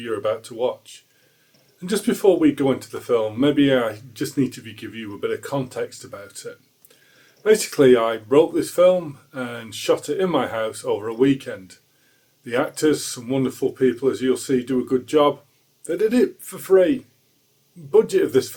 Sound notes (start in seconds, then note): none